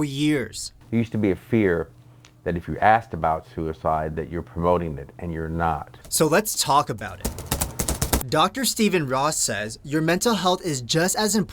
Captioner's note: typing on key board